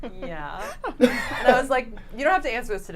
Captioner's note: giggles; laughs